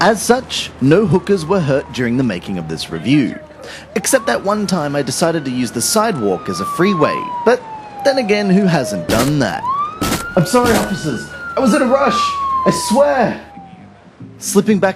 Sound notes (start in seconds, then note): 9.7 police siren; 10.6 door cracking in background